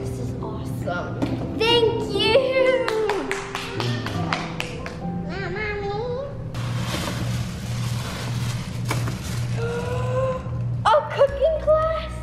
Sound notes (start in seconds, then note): 2.7 clapping; 6.6 paper rustling